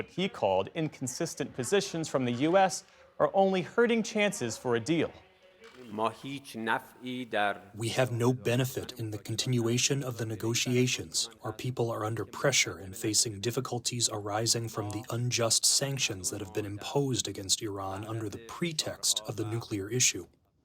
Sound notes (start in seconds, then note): 8.2 through translator